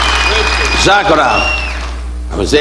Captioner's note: audience applauding and cheering; speaking foreign language